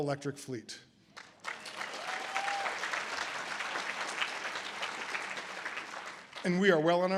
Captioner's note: audience applause